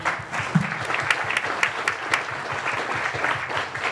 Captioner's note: applause